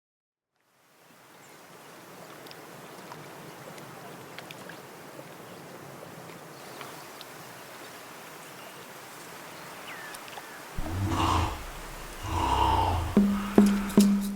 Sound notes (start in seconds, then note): 0.8 wind, water sounds; 10.8 bear grunts; 14.1 drumming, chanting